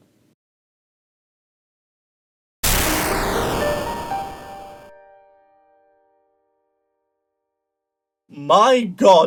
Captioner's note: video game explosion sound